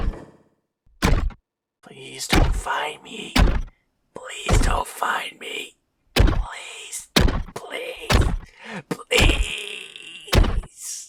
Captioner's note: squeals quietly while talking